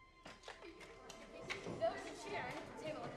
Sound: playful chatter

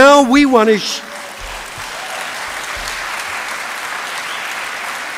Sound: applause

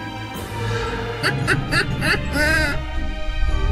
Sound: laughing

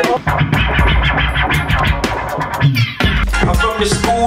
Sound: turntable spins; upbeat song plays

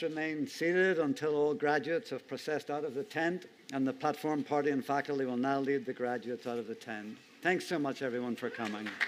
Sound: cheers and applause

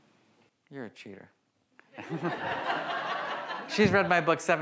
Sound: audience laughs

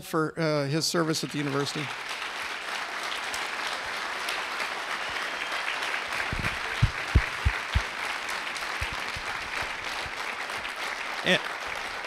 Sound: clapping

